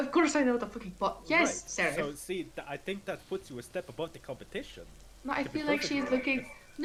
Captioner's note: frustrated Noises